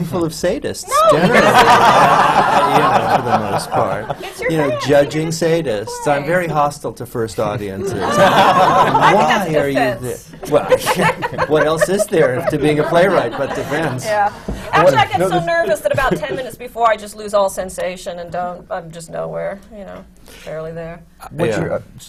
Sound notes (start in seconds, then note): 1.0 laughter; 7.8 laughter